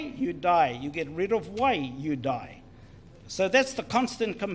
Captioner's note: foreign Language